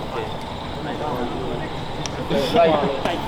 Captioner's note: laughers and chatters